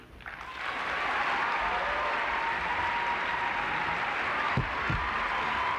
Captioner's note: applause